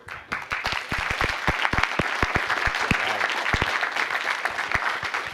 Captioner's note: applause